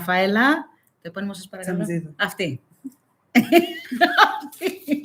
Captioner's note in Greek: γέλια